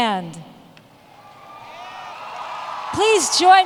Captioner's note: cheers and Applause